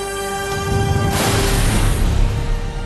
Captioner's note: explosion blast